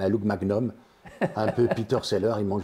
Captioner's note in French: Rire